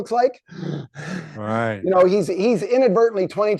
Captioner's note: inhaling and exhaling sharply